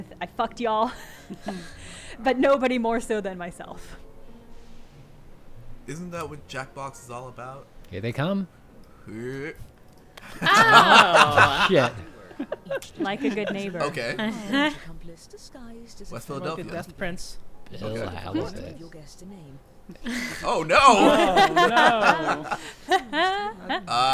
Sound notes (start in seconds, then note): 10.2 group laughing; 19.9 group laughing